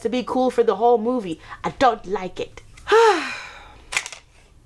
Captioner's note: sigh